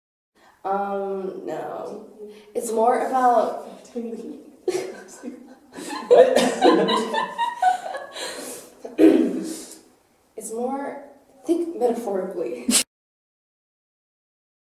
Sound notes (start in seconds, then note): 4.6 laughter; 8.9 clears throat; 12.8 snorts